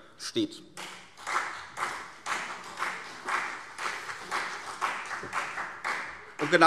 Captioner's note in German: Beifall CDU und BÜNDNIS 90/DIE GRÜNEN